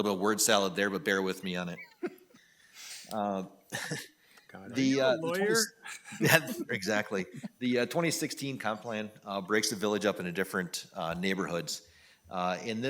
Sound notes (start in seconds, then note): 2.0 people laughing